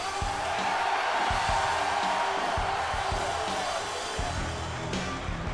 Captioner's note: audience cheers; upbeat music continues